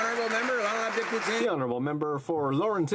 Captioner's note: some Applause